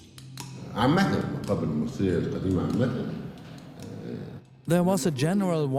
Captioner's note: in Arabic